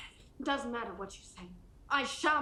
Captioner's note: none